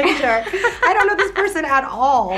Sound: laughs

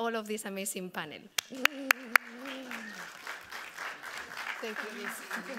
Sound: audience clapping

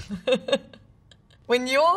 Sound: laughing

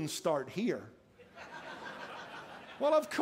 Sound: laughter

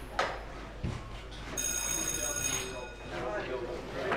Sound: bell rings

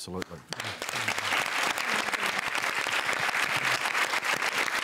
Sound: applause

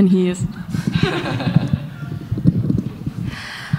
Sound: laughter

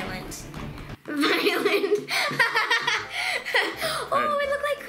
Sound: laughs

